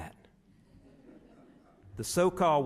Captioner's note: audience chuckles